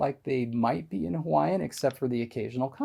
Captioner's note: none